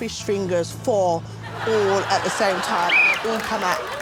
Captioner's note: Alex blows whistle